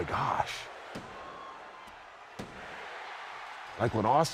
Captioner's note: crowd cheers wildly